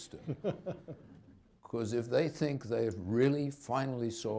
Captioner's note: laughter